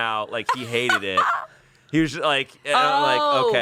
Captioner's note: laughs